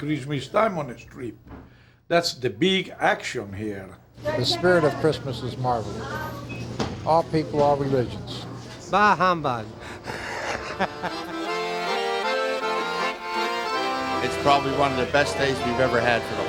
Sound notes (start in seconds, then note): 6.5 laughs; 7.5 accordion music plays